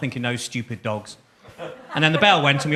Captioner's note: audience chuckles